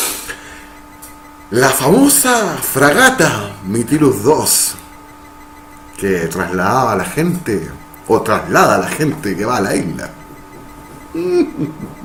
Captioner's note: mmmm